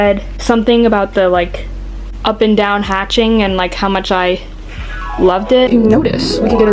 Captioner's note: flashback sound effect